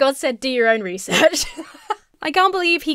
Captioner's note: laughs